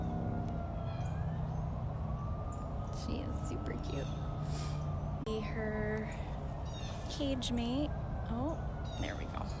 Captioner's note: birds chirping